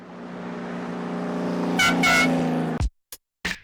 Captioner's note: horn honking; motorcycle roaring